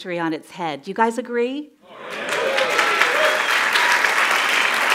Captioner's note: cheers and applause